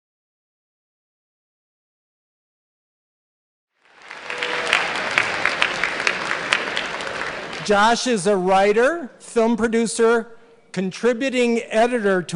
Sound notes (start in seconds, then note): 3.7 applause